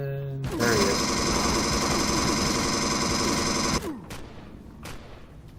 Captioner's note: pulse rifle; turret fire continues